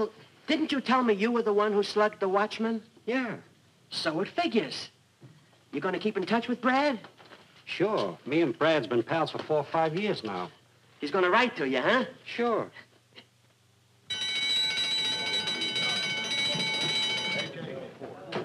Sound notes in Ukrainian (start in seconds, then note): 14.1 голосний дзвінок